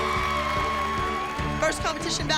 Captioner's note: cheering